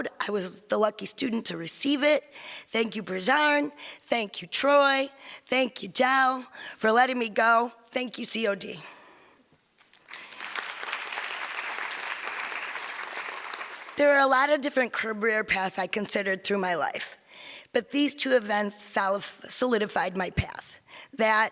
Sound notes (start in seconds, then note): 10.0 audience applause